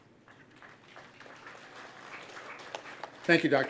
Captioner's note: applause